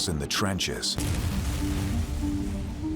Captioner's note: explosion